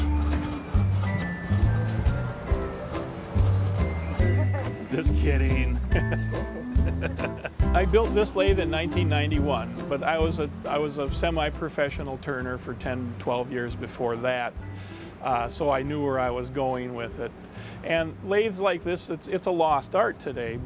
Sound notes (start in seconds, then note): 0.1 light jazz music; 5.7 laughing; 5.7 laughs